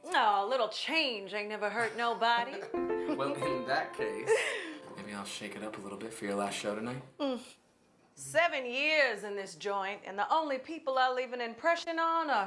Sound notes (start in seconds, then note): 1.8 laughs